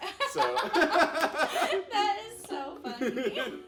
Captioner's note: laughing